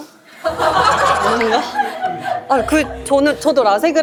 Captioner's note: laughs